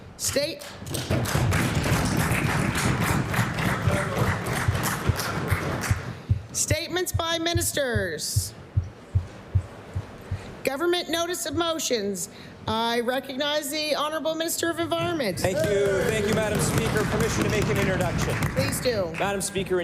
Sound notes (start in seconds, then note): 2.8 applause